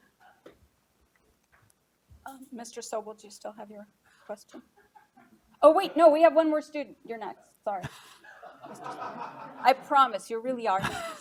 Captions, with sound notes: - Mr. Sobel do you still have your question? Oh wait, no we have one more student. You're next, sorry. (laughing) I promise, you really are.